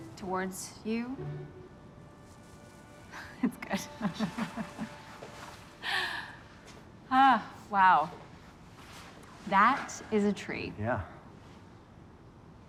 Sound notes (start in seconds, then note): 3.8 laughing